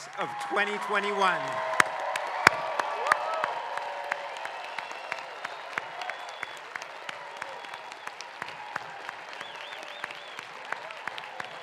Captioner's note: applause